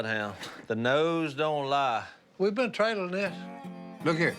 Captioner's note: none